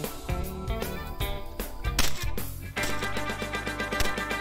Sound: gun fire

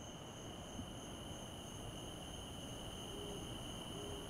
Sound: crickets

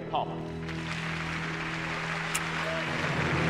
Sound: applause

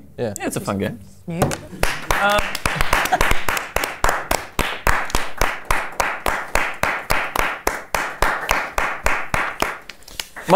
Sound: clapping

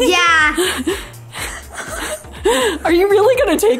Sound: laughing

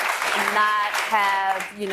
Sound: applause

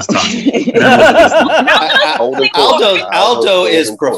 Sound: laughing

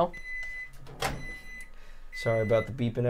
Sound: microwave beeping

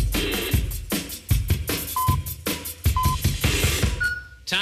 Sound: electronic beeping

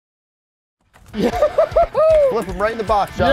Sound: laughing

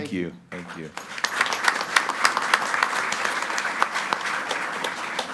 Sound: group applauding

